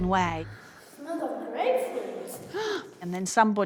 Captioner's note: sighs